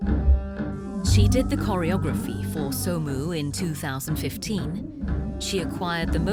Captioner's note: voiceover